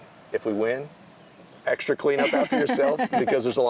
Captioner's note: host laughing